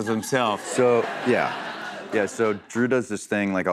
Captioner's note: laughter